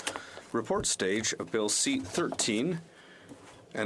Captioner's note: speaking French